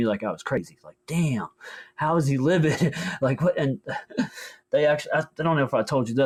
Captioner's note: laughs